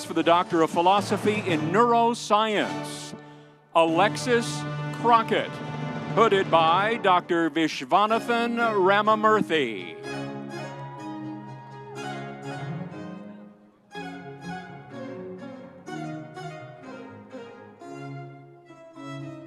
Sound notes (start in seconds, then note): 10.1 energetic music; 10.3 audience cheering